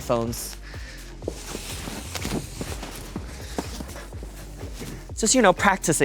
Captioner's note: footsteps thudding; fabric rustling